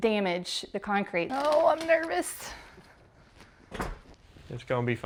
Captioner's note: door closes